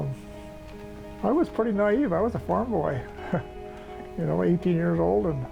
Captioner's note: chuckles